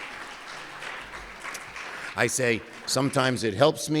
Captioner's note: cheers and applause